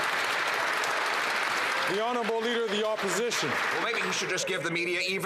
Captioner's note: some Applause